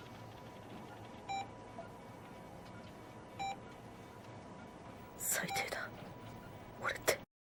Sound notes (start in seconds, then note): 1.2 hospital machine beeps; 3.3 hospital machine beeps